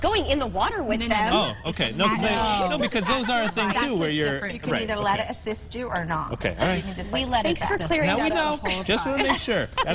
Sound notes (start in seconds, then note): 8.9 laughter